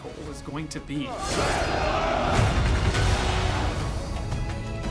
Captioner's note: men yelling, swords scraping